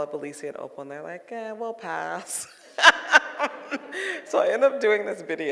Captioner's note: laughing